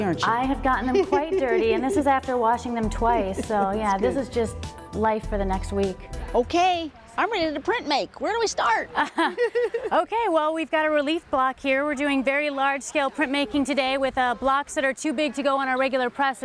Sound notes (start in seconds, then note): 0.5 woman laughs; 8.9 laughs